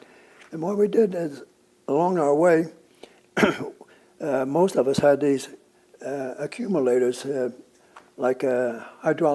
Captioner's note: clears throat